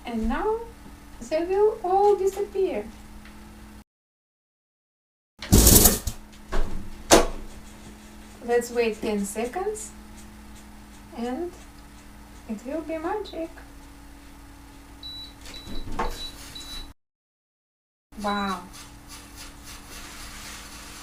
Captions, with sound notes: And now, they will all disappear. Let's wait 10 seconds, and it will be magic. (beeping sound) Wow!